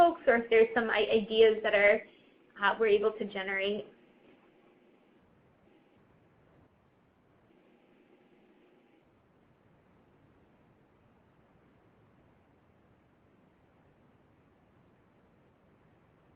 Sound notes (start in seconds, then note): 8.4 pause